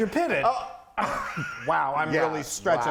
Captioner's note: laughing